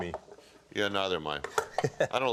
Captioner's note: chuckles